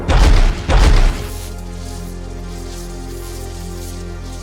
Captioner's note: sword crackling